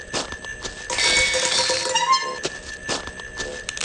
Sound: clown noises and clutter

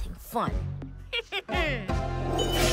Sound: snickers

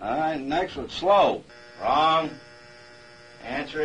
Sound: machine beeping

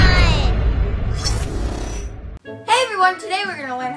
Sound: graphics whoosh

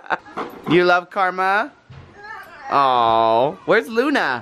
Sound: laughs

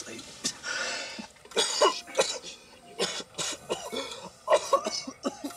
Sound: Jack coughing

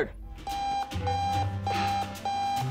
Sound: alarm sounding

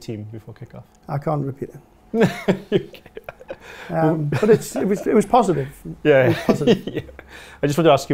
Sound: laughs

